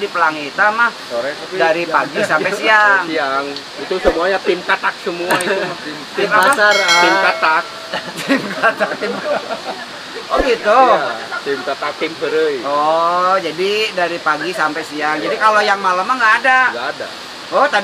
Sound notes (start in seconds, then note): 7.8 laughs